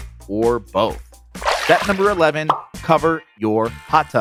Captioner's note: water splashes